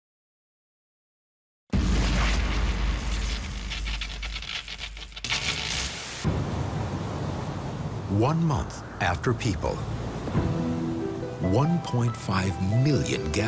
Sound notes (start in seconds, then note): 6.0 wind blowing